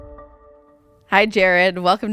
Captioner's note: pulse sound